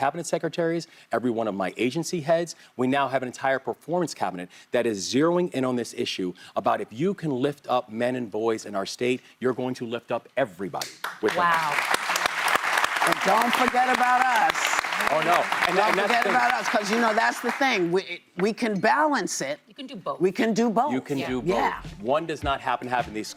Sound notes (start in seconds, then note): 14.6 applause